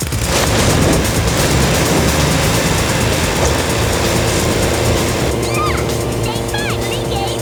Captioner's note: engines roar